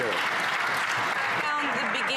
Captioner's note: some Applause